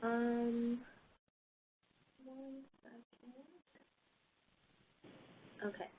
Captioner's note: 5 seconds pause